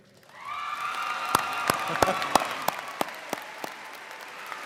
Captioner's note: audience cheers